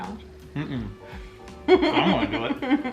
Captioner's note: laughing quietly